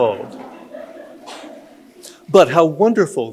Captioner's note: audience laughing